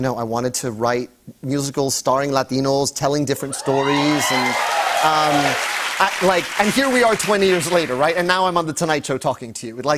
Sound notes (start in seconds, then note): 3.4 cheers and applause